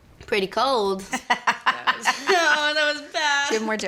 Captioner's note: laughter